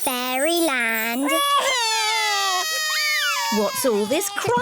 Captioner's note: both crying loudly